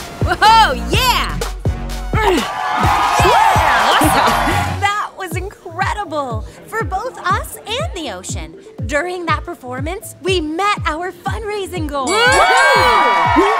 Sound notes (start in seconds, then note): 2.2 all cheer; 12.0 all cheer